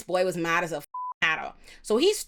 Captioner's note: beep